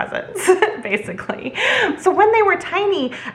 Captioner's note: chuckles